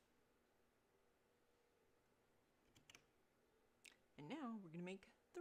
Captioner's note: mouse and keyboard clicking